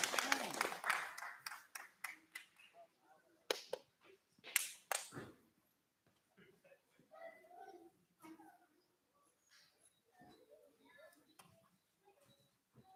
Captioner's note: clapping